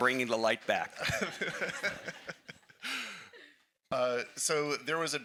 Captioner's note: laughing